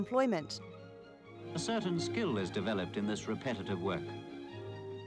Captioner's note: archive voice-over